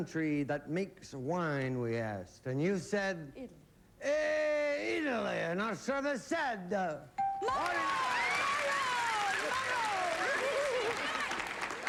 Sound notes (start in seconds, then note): 4.0 italian accent; 7.8 speaking italian